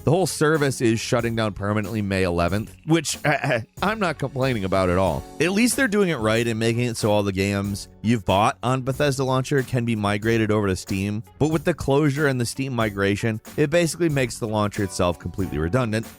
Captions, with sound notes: The whole service is shutting down permanently May 11th, which (coughs) I'm not complaining about at all. At least they're doing it right in making it so all the games you've bought on Bethesda can be migrated over to Steam, but with the closure and the Steam migration, it basically makes the launcher itself completely redundant,